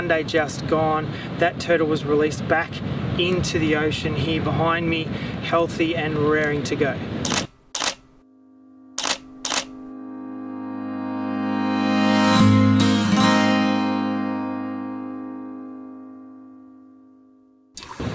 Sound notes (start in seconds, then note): 7.2 camera shutter clicks and music swells